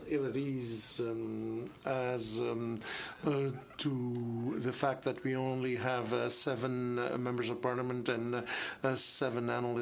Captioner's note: speaking in French